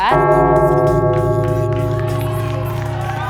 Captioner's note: gong